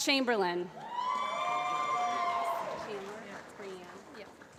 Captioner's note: applause